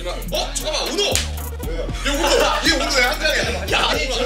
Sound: slap

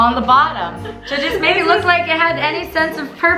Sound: laughs

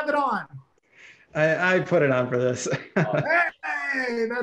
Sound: chuckles

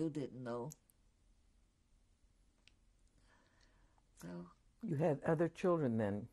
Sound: pauses for 3 seconds

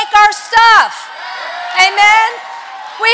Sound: congregation cheering

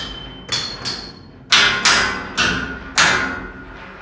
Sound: clanking

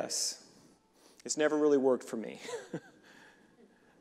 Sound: reverend laughing

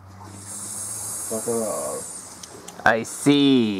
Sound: hisssssss

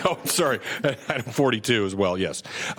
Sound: laughter

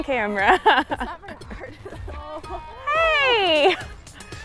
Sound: laughing

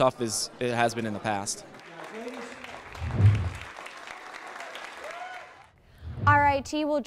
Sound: applause

